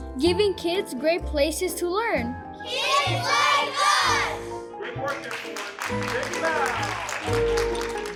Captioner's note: clapping, music